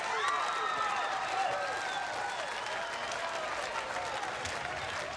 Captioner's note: audience applauds and cheers